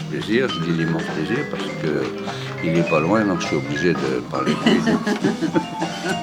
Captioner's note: laughs